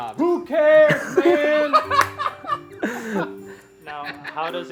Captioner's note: laughing